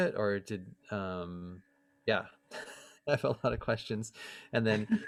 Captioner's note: laughter